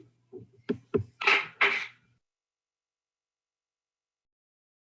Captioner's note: object clattering